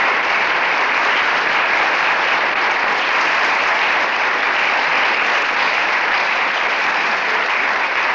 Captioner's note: applause